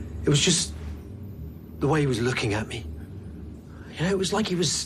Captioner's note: none